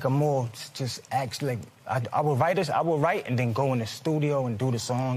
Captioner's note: none